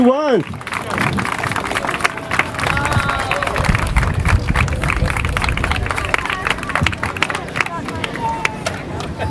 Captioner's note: applause